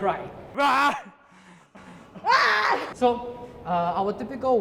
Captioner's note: shouts